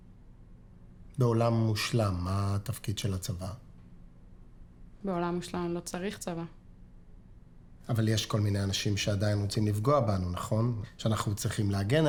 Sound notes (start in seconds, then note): 1.4 speaking foreign language